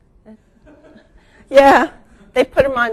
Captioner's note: audience laughing